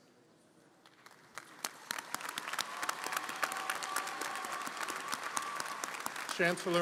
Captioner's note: audience cheering & applauding